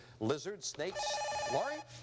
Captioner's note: buzzer